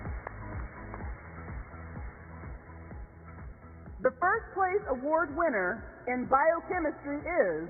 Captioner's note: applause